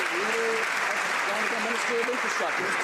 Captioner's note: some Applause